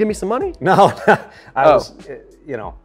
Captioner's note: chuckles